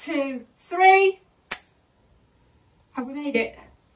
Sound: clicks fingers

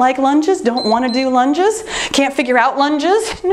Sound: timer beeps

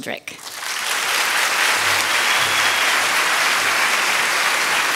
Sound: applause

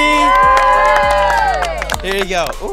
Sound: everyone cheering

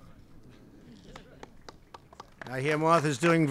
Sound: applause

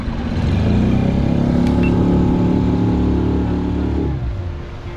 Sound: dinghy engine roars

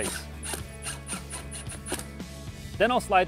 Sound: drilling

